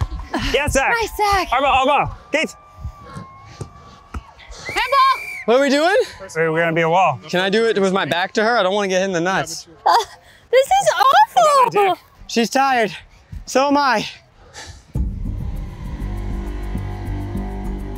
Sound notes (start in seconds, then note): 4.5 whistle blows; 14.9 dramatic music